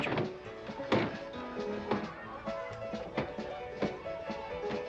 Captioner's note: doors banging; lively saloon music